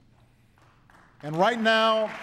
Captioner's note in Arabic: تصفيق